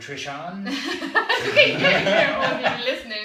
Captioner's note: laughter